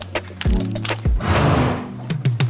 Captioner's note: snort